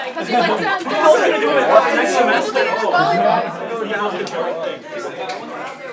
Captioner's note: excited chatter